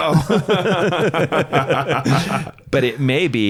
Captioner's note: laughs